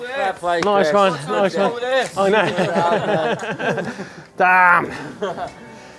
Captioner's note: bikers chattering and laughing